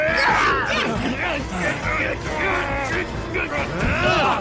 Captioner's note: both grunting